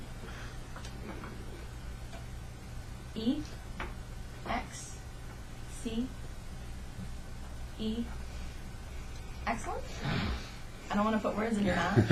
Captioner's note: laughter